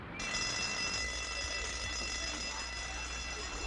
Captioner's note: bell ringing